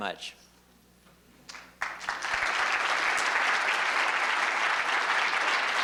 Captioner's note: applause